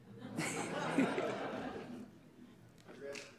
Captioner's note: laughter